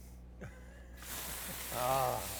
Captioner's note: meat sizzles on the grill